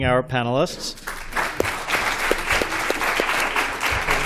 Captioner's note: applause